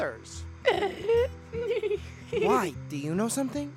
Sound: אולי מצחקק בזהירות

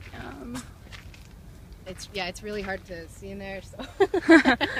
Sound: laughs

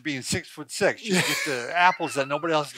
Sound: laughter

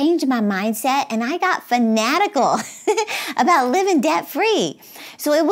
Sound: laughs

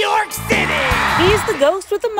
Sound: audience cheers

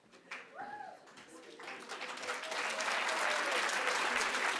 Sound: audience applauding

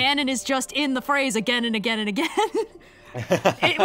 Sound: laughs

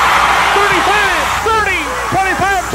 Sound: crowd cheers

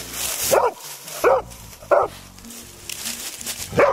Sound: dogs bark

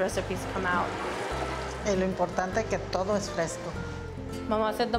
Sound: speaking Spanish

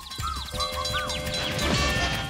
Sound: bell ringing

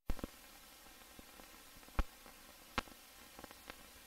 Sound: old film static

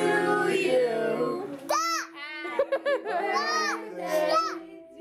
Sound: laughing

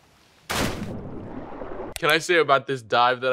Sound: splash

